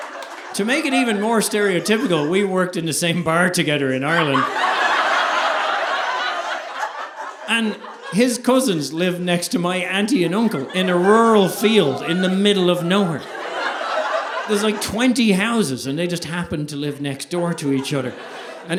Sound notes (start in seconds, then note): 4.5 audience laughing